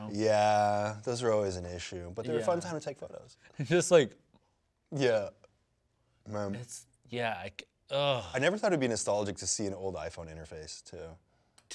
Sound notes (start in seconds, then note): 7.6 groans